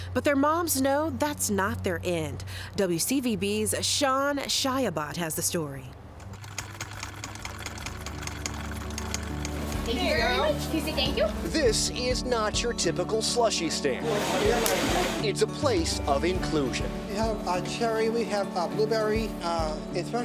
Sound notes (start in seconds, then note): 6.2 sewing machine chucking